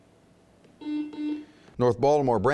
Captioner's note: buzzing